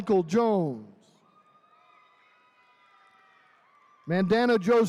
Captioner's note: attendees cheering